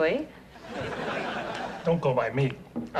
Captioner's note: audience laughs